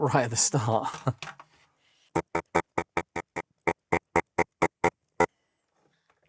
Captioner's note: beeping; laughs